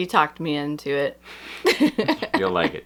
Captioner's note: laughter